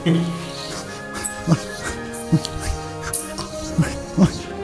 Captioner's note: suffering chatter